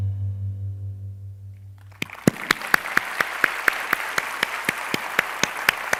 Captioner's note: applause